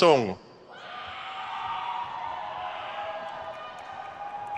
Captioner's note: crowd cheers